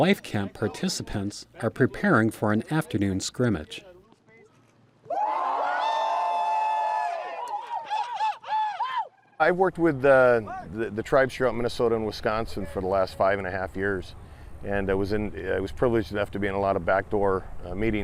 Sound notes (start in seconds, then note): 5.0 cheering; 7.2 screaming